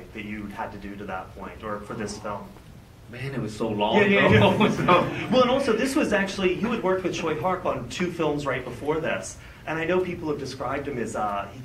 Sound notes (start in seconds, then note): 4.2 laugh